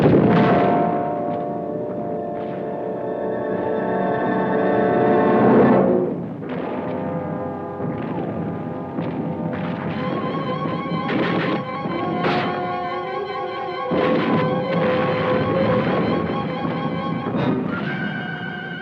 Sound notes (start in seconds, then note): 1.8 dramatic music; 10.5 bold orchestral music; 10.5 gunshots blasting